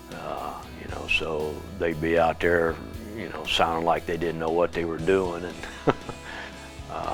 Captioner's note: laughter